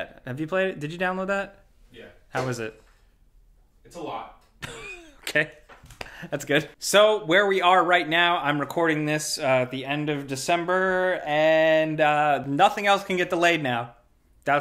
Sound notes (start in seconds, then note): 4.6 chuckles